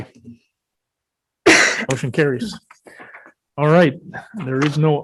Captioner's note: coughs